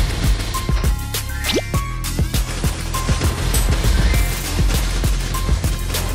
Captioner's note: thrash